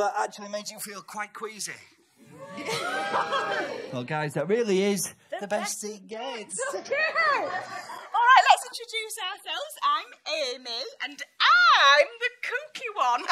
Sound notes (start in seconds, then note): 2.3 strangely subdued cheer; 6.7 audience laughs